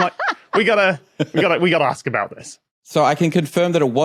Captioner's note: laugh